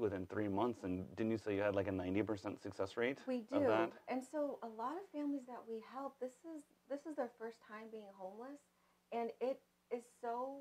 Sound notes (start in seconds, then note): none